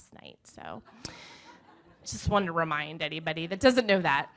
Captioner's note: audience laughing